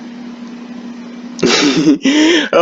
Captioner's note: chuckling